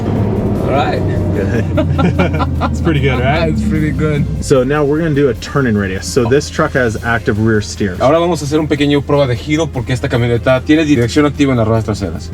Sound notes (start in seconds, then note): 1.3 laughter